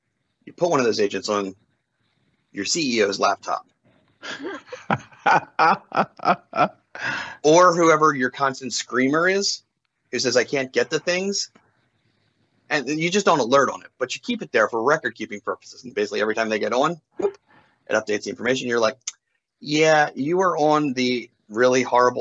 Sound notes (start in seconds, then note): 4.2 laughs